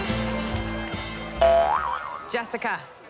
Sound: boing!

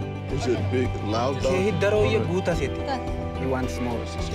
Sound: speaking foreign language

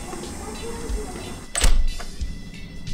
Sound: door closes

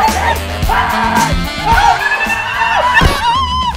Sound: screaming

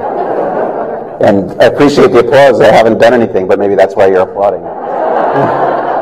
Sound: laughter

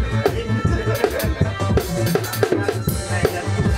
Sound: laughter

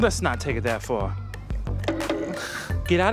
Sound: laughs

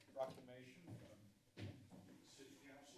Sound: footsteps

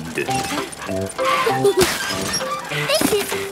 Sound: mummy and daddy pig panting; peppa and george laughing

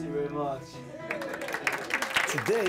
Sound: clapping

